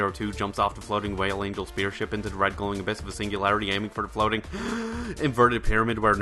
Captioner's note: deep breath